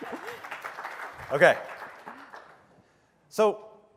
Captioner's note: applause